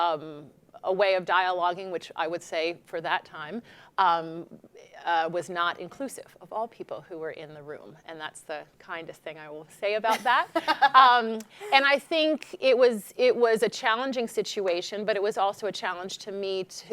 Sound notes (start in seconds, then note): 10.1 laughing